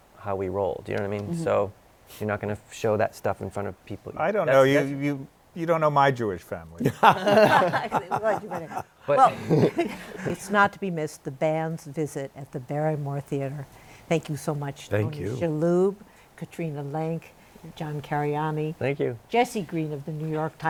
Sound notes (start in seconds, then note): 6.8 laughter